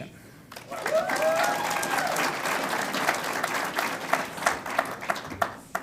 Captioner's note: audience cheers and applauds